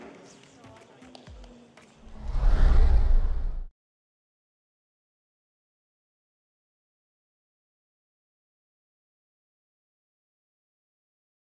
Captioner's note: applause